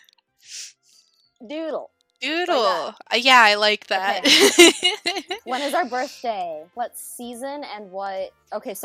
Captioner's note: laughing